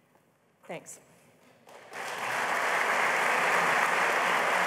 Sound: applause

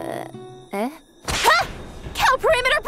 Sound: whip cracks; tense militaristic music

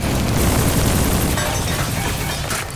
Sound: clanking

